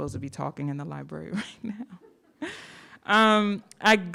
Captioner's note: chuckles